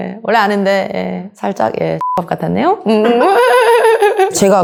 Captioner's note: laugh